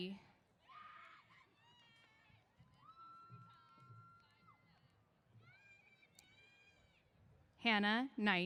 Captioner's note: cheers